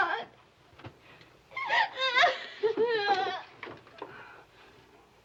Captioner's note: sobbing